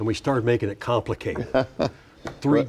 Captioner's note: laughing